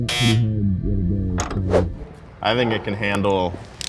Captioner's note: buzzer buzzing